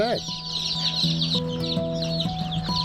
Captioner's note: chicks chirping